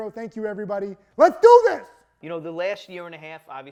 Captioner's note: shouts